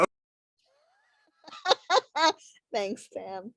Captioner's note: laughing